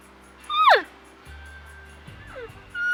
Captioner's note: elk call noises; elk bugling; elk call noises